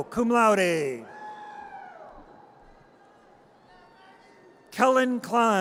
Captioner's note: audience cheers